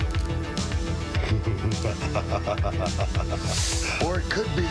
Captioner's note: laughs